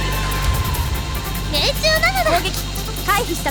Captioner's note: none